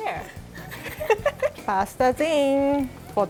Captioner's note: laughing